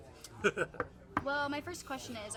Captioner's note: laughs